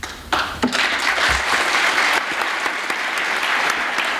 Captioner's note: applause